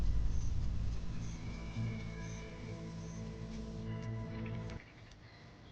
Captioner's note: dramatic music; wildebeest bellows